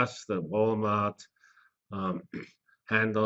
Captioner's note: cough